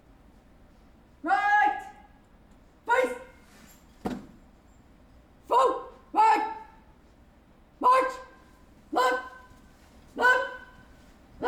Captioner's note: indistinct chatter